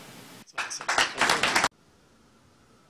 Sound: applause

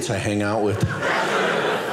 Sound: audience laughing

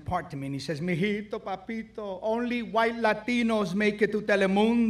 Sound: speaks foreign language

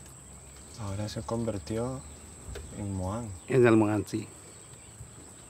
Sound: speaking in foreign language

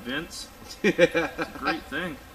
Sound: laughing

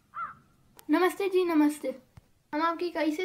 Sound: Hindi

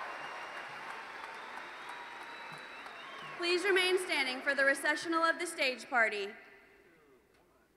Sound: cheers and Applause

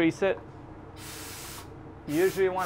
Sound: compressed air releasing

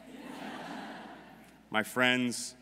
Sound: audience laughing

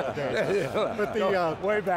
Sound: laughs

